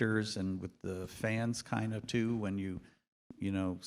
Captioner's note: none